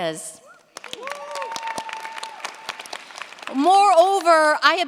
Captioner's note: cheers, applause